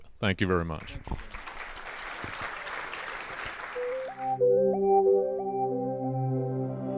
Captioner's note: applause